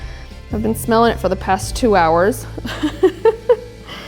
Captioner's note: chuckles